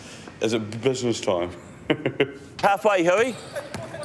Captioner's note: laughs